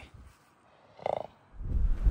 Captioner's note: snort